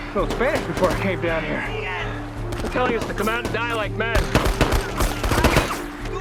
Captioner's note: shouting Continues